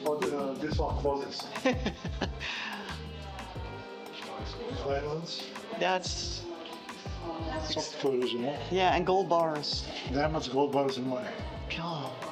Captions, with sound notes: Oh, this one closes. (laughs) That's, that's. Yeah, and gold bars. Yeah, I want gold bars in mine.